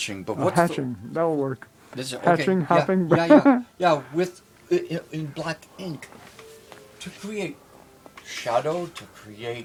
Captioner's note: laughs